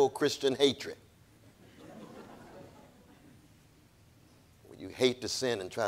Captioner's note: audience laughing